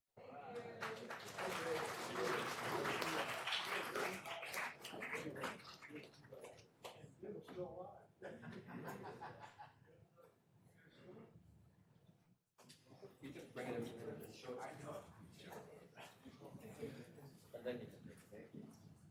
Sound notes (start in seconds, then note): 5.2 applause; 5.2 some Laughter